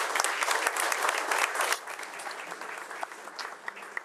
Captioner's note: crowd applauding